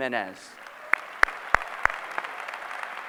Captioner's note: applause